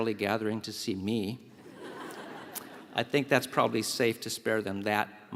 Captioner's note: laugh